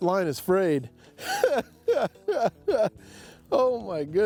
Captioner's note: chuckling